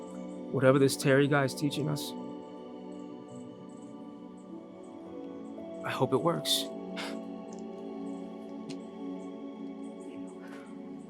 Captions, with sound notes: Whatever this Terry guy is teaching us, I hope it works. (Brandon scoffs)